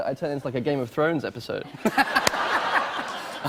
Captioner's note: laughter